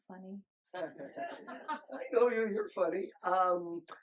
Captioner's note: group laughing